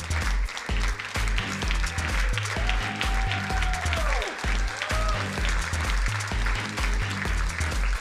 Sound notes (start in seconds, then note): 0.0 crowd applauding; 2.7 crowd cheering